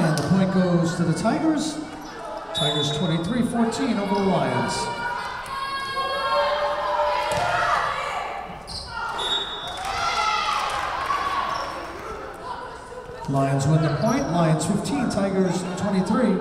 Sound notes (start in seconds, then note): 2.5 whistle blowing; 9.1 whistle blowing